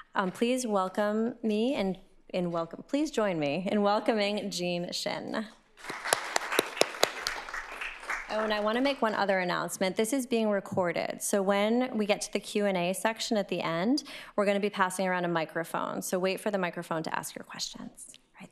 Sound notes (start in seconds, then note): 5.8 applause